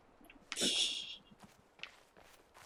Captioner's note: laughs softly